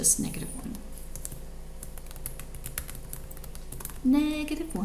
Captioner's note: keyboard clicks